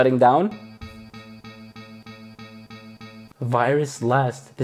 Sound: beeping sounds

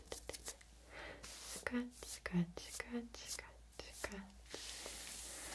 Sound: scratch

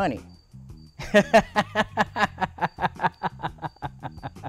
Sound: laughs

